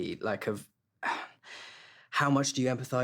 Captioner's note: sighs